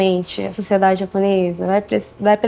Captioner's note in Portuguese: none